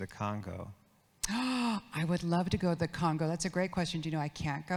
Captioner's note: gasps